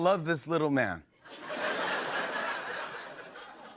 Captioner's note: laughter